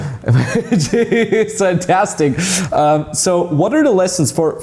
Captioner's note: laughs